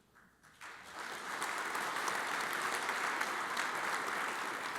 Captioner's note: audience applauds